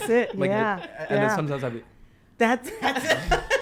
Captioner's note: laughing